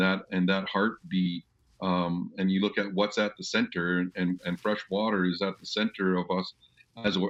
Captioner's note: speaking indigenous language